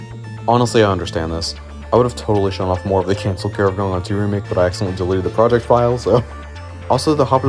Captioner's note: laughs